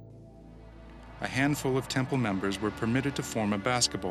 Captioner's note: voiceover